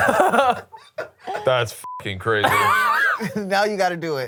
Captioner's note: laughs; beep